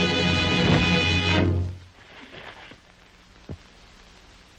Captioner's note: body thuds